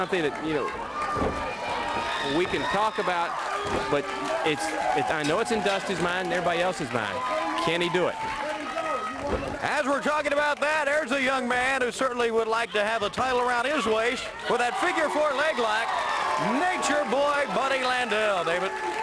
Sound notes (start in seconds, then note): 0.0 crowd chatter; 2.6 crowd cheering; 7.3 crowd cheering; 9.8 crowd chatter; 16.5 crowd cheering